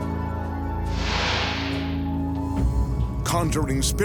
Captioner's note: ominous instrumental music; light beam swishing